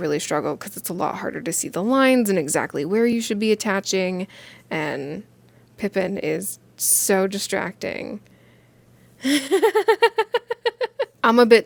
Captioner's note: jubilated giggle